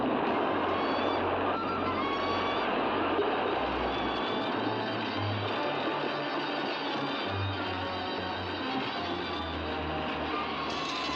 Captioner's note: waves crashing; suspenseful music; bird squawks